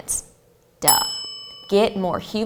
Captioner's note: bell rings